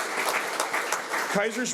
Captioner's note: audience applauds